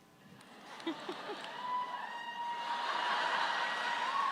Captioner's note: audience laughs